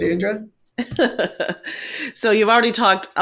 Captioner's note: laughs